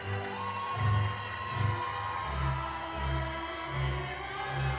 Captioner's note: audience cheering